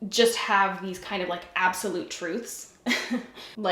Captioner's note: giggles